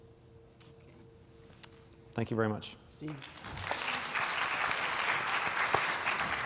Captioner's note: applause